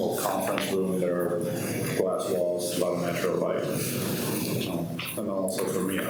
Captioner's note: faintly speaking